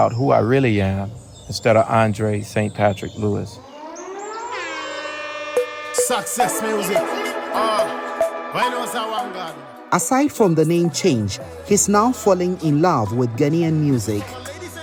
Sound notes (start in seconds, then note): 3.6 siren wailing; 7.8 speaking in foreign language